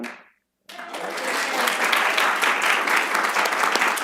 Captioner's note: applause